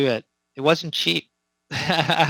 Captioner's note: laughs